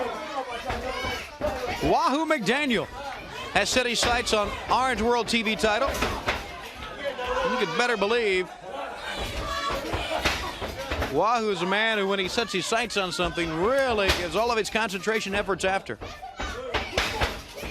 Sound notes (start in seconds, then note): 2.6 crowd cheering